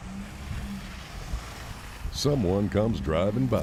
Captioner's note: car tires whooshing